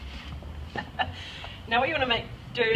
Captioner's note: chuckles